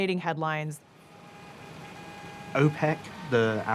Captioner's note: car horns honking